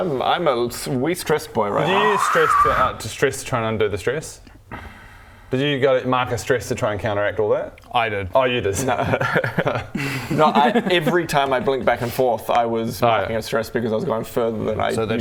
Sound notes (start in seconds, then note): 9.3 that-went-well laugh